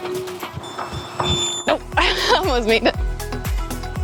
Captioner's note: Garmin heart rate too high alert